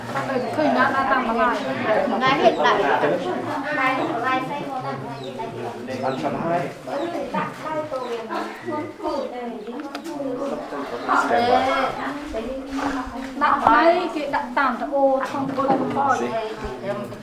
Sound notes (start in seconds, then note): 2.7 chattering